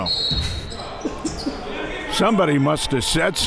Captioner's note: laughing